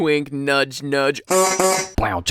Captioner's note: horn